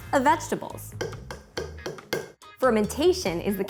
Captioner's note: tapping jar lid